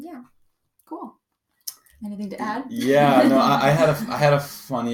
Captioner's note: laughter